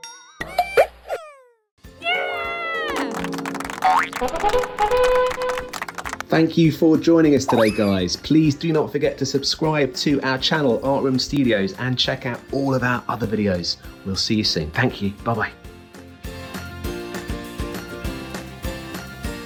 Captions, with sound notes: (assorted cartoon noises) (applause) (victory cartoon noises) - Thank you for joining us today, guys. Please do not forget to subscribe to our channel, Artroom Studios, and check out all of our other videos. We'll see you soon. Thank you. Bye-bye! (bright upbeat music)